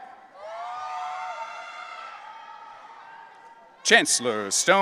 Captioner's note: audience cheering